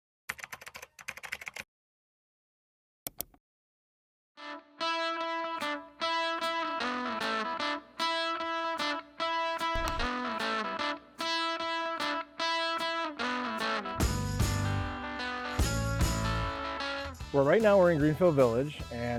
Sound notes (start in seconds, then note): 0.1 keyboard clacking; 3.1 mouse clicking; 4.6 rock music